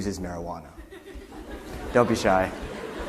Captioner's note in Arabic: يضحكون الجماهير